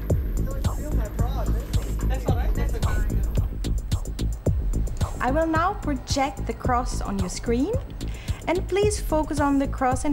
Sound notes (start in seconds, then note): 0.0 suspenseful music; 0.0 indistinct conversation